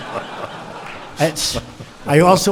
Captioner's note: laughter